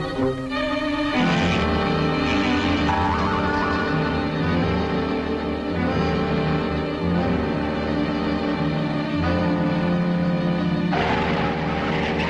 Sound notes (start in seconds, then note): 1.7 fishing line stretching; 4.3 suspenseful music